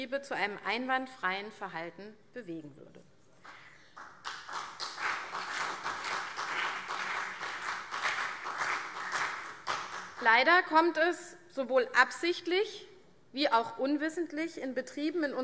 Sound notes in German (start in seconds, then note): 3.9 Beifall CDU und BÜNDNIS 90/DIE GRÜNEN